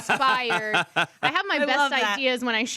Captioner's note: laughs